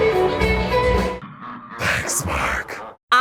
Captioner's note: rock music; devil voice